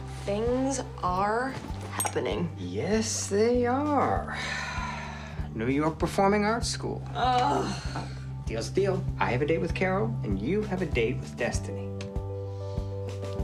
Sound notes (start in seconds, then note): 7.0 groans